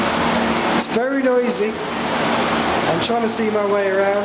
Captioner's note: loud whirring